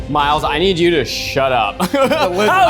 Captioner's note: laughs